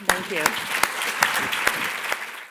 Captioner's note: applause